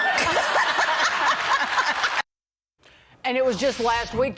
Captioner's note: laughter